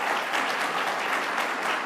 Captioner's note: applause